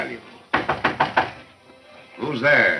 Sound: knocking

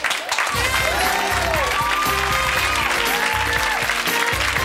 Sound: cheering and applause

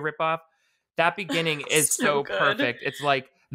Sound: laughs

